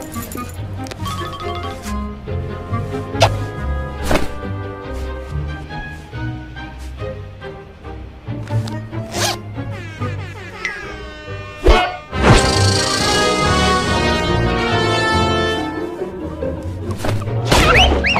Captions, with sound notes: is your hat, like, alive or something? - Oh, well, that's none of your goddamn business. Now, is it? - (chuckles) Would that make your hat the top and you the bottom? - Ooh! (distant air horn blares) (bonk!) - I'm going to blow you to bits. - Hmm, kinky. - Oh, not like that, pervert!